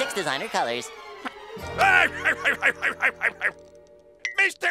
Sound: laughing

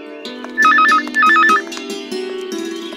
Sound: phone rings

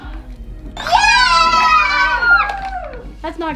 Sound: girls cheer

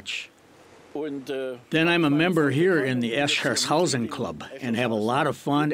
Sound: foreign language

